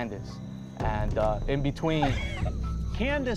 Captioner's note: everyone laughs